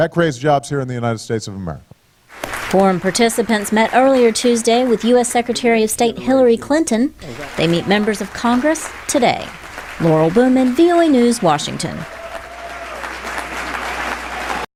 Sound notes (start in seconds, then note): 12.7 cheering and applause